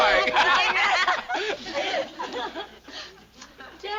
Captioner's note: doorbell ringing